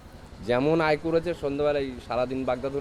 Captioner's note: indian native speaking